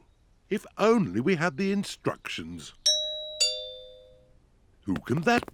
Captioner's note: doorbell rings